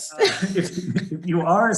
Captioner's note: all laughing